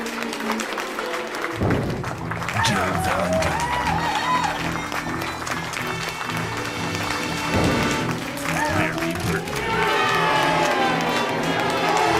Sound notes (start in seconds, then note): 0.0 applause; 0.0 more applause; 3.4 crowd erupts with cheers; 8.5 crowd continues applauding